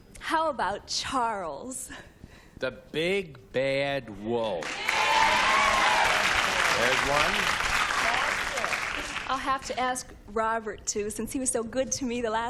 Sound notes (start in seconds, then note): 4.6 applause